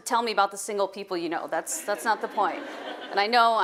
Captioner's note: audience laughing